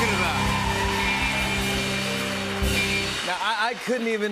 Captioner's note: cheers and applause